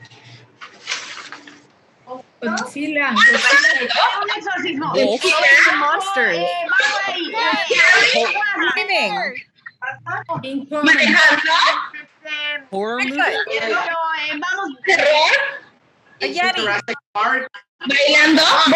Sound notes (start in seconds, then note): 2.6 woman speaking Spanish